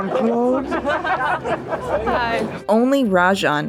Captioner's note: laughter